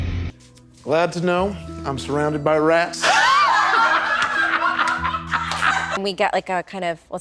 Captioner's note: hard rock music plays; and crew burst into laughter